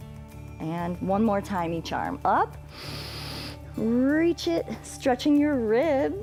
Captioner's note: inhales